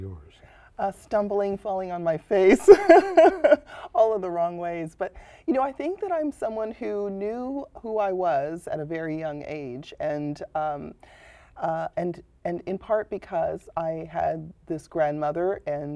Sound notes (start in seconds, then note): 2.5 laughter